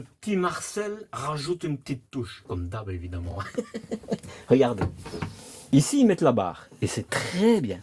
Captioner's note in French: rires